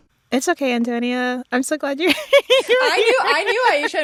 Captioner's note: laughter